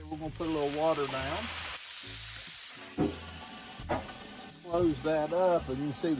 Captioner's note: griddle sizzling